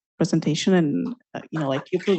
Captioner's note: applause